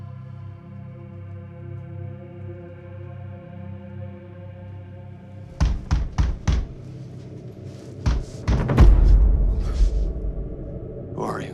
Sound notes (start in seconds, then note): 5.5 banging on door; 8.6 suspenseful music